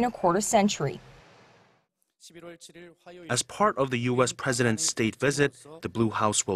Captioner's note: Korean